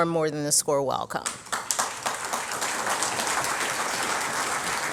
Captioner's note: audience clapping